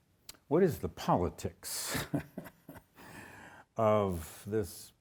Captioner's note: chuckles